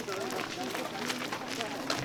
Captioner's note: indistinct chatter